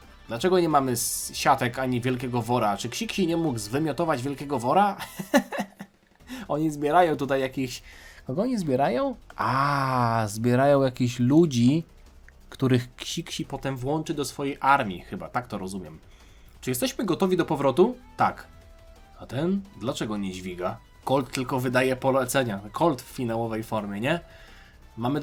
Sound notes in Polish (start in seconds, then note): 5.0 śmiech